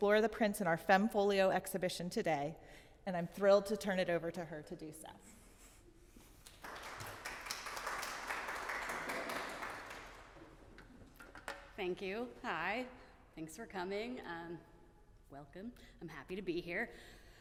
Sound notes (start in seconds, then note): 6.4 audience clapping